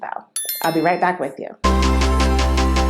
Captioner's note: bell sound; intro music